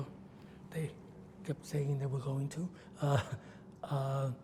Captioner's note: laughs